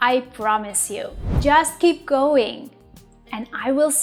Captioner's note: air whooshes